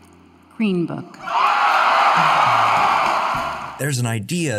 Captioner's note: cheering